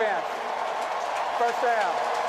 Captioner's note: cheering